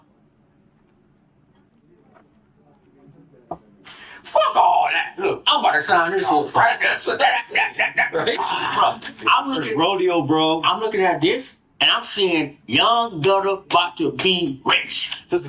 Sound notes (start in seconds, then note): 0.2 awkward silence; 8.3 satisfied grunt